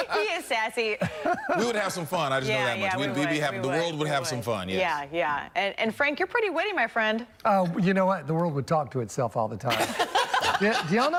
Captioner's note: laughter